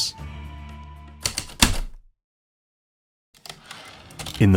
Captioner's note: heavy typewriter keystrokes then return slide